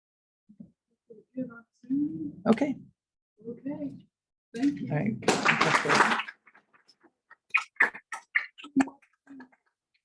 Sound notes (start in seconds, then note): 5.2 applause